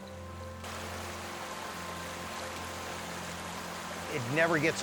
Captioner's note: water rushing